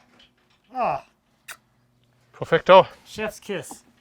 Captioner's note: lips smack